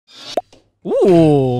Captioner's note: pops; whoosh